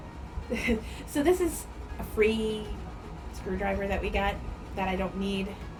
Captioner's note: chuckles